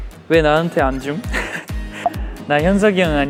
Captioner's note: laughing